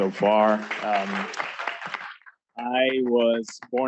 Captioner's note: applause